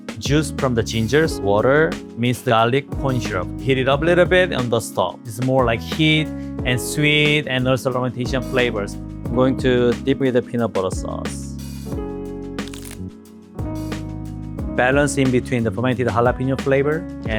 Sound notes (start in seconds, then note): 12.4 chicken crunches; 12.4 upbeat music